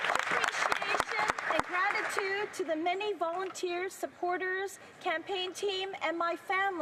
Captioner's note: applause